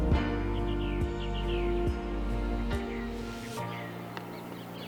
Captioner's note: birdsong